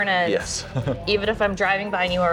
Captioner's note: laughs